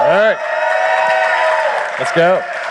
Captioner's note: crowd cheering